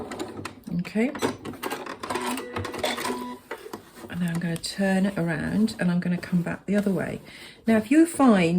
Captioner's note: sewing machine noise